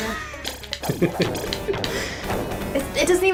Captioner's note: laughter pertinent to expensive cereal